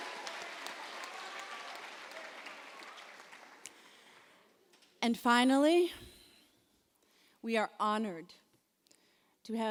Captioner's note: applause